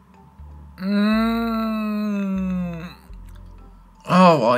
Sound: groans

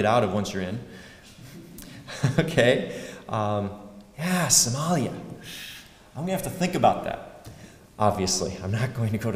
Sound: laugh

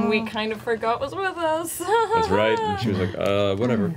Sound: nervous laugh

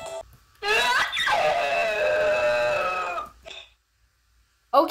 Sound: screams

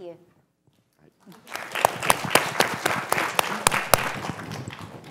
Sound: applause

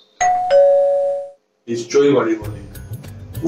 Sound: door bell sounds

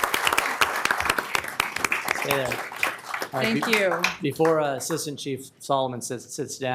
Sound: applause

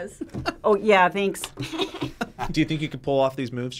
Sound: both laugh

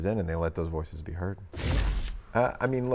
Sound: static crackling

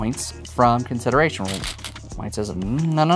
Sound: stones rattling

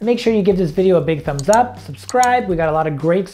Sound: mouse clicking

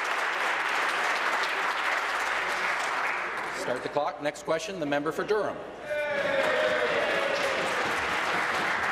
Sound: applause

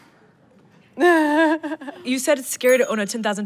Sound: laughs

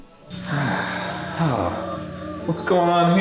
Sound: sighs

